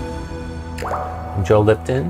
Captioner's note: electronic music; water droplet